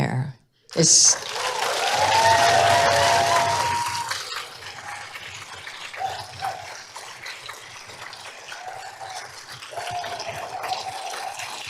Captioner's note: applause; applause, standing ovation